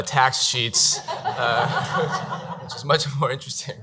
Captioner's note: laughing